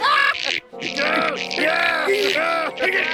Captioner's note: laughing; grunting